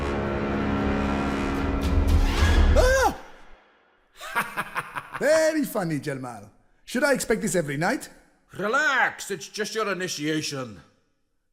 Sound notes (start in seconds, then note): 2.7 screams; 4.2 laughs